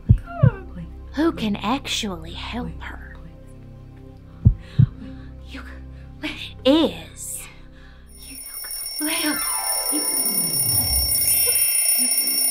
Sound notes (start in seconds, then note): 4.4 heartbeat; 8.1 alarm